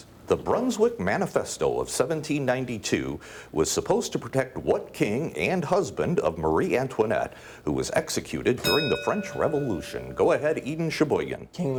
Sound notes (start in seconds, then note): 8.6 bell dinging